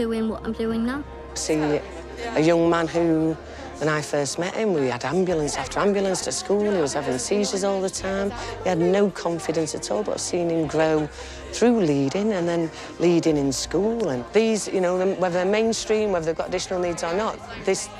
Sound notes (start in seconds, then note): none